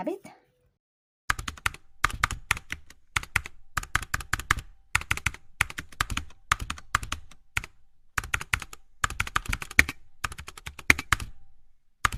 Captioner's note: typing sounds